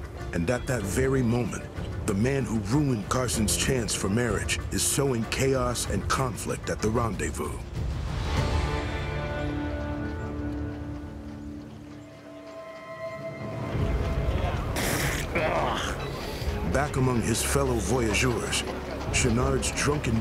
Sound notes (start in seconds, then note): 14.4 men chattering; 14.7 spits, groans